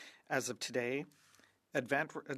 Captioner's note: speaking French